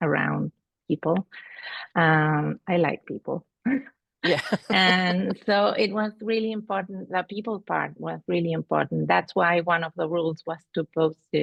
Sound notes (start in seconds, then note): 4.2 laughter